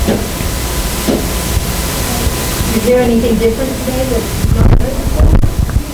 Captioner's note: students mumbling softly